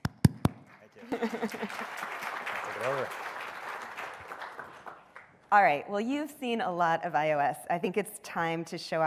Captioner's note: applause